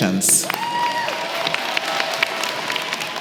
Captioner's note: applause